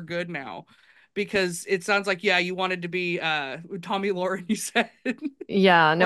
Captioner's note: laughs